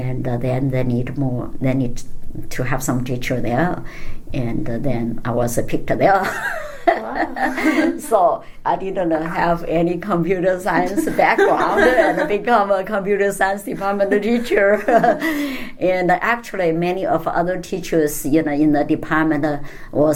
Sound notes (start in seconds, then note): 6.2 laugh; 11.9 laughs; 14.0 laugh